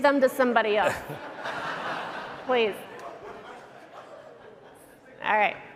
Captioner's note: laughter